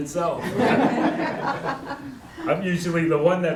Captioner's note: laughter